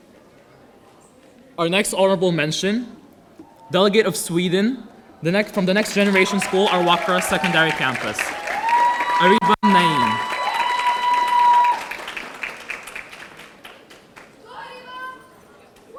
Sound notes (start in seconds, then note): 9.8 audience cheering; 10.6 audience applauding